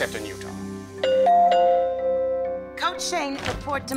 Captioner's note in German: Glockenläuten